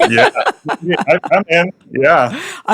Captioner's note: laughing